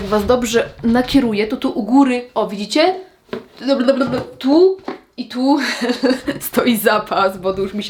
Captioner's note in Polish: śmiech